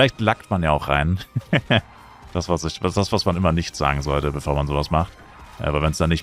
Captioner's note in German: gelächter